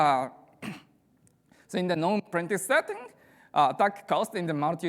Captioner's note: clears throat